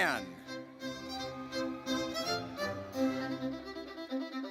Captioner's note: audience cheers